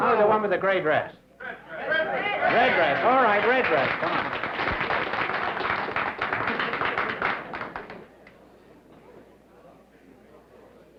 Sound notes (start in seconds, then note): 4.4 applause